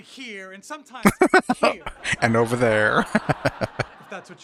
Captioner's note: laughing